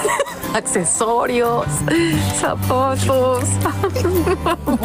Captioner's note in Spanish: risas